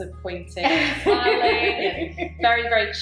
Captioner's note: laughs